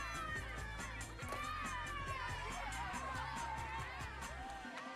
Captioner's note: children cheers